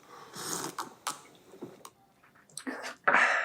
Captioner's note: sound of drinking